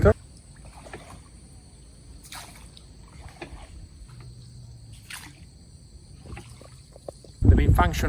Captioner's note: calm water sound